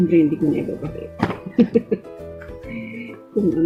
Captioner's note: laugh